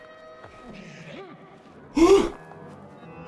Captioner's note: gasps